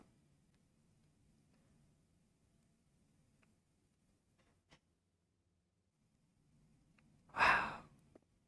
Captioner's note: sighs